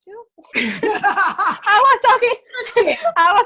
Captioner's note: both laugh